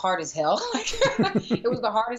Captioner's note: laughter